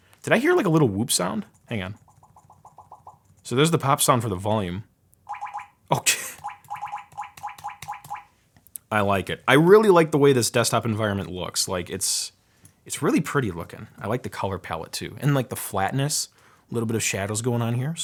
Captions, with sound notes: Did I hear like a little whoop sound? Hang on. So there's the pop sound for the volume. (volume popping) I like it, I really like the way this desktop environment looks. It's really pretty looking, I like the color pallet too and the flatness, a little bit of shadows going on here,